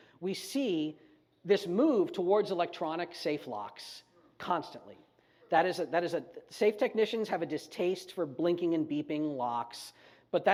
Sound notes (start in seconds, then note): none